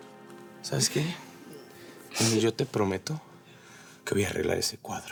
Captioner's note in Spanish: sollozos